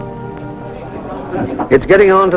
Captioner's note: men chattering